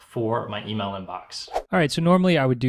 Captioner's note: whooshing